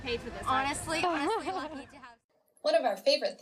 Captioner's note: laughter